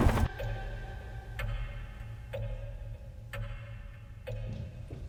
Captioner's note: tense music; clock ticking